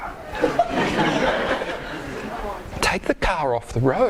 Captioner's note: audience laughs